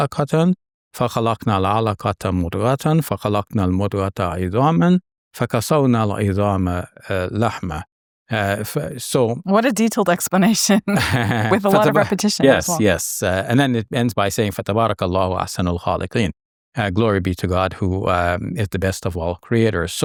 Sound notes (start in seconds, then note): 10.9 chuckles; 14.5 speaks Arabic